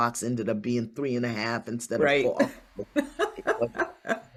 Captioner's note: laughs